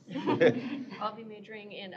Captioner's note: laughter